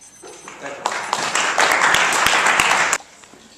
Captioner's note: timer beeping - clapping